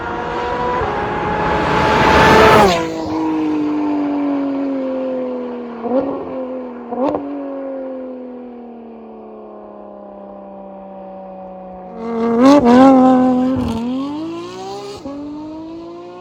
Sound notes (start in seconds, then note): 6.5 happy car noises